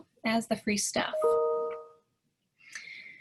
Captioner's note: chime